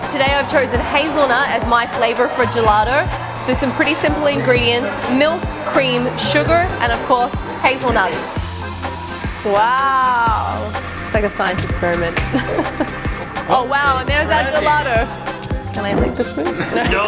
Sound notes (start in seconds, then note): 12.8 laughs